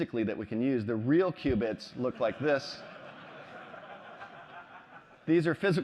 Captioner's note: laughter